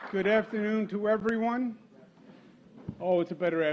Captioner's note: applause